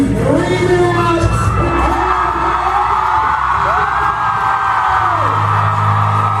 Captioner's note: audience cheers, applauds